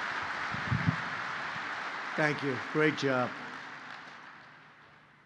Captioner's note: applause